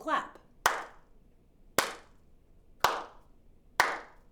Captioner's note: hands clapping